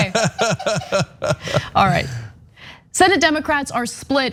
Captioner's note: laugh